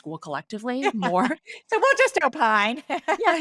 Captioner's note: laughing